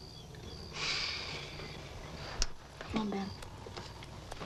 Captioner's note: Tommy sighs